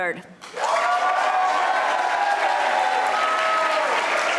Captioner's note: audience applauding